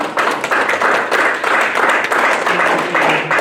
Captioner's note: applause